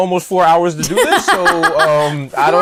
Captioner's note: laughs